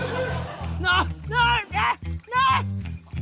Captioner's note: laughter; yelps